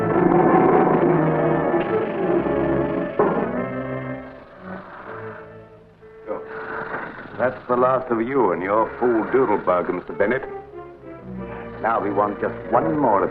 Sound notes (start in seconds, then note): 0.2 cage door closing; 2.1 serpent rattling